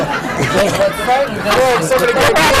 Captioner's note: laughter